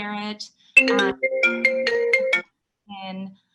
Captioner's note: phone ringing